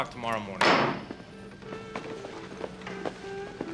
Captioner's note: gavel bangs